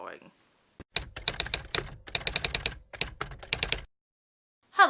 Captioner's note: typewriter Typing